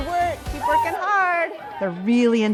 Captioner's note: students cheering